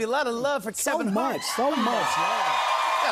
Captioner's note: cheers and applause